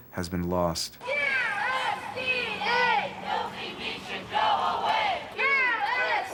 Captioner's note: crowd chanting